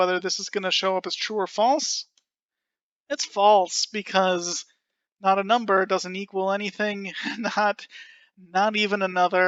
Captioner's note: laughing